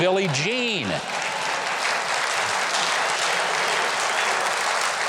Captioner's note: audience applauding